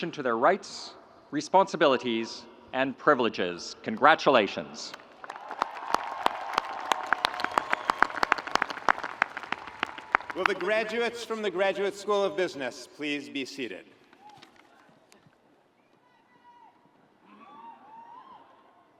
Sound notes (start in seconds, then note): 4.9 audience applauds